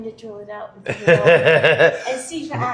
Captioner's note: laughs